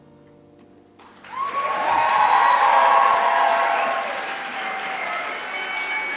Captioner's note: cheering and applause